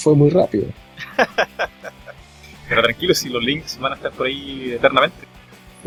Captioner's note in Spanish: risas